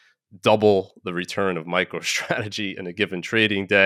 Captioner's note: laughing